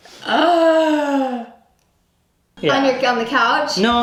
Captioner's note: gasps